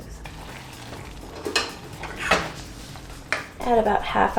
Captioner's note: rattling sound